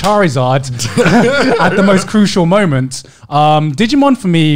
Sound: laughing loudly

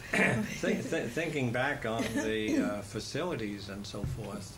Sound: laughs

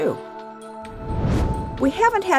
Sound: whoosh

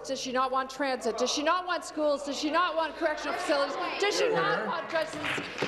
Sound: some applause

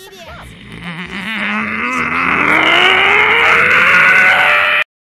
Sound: enraged grumbling

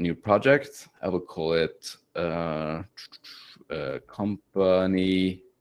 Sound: clucks

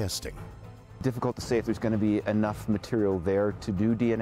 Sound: voiceover

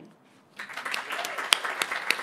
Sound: applause

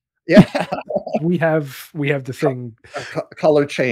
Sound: laughing

